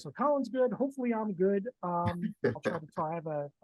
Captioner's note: laughing